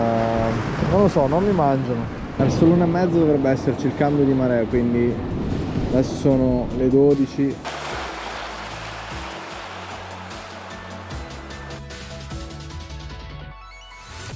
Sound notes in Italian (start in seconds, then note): 7.6 Applauso